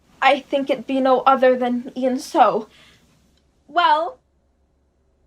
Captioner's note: none